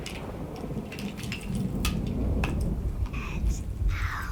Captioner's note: thunder rumbling